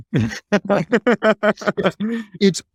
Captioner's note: laughing